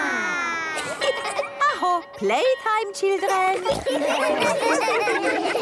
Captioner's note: school bell